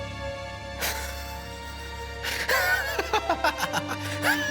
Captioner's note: Aladdin laughs